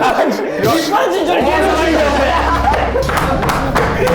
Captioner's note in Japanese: ドラの音; スタッフ：笑い